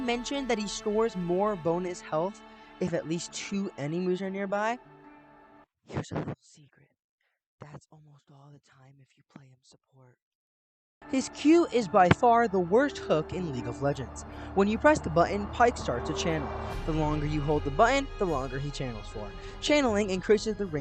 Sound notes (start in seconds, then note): 4.5 whispering